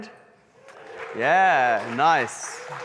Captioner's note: audience cheering